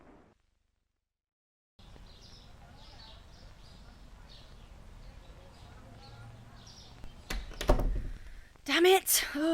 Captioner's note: birds Chirping & Trees Rustling. Doors Open and Close